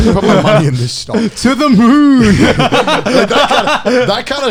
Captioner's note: all laughing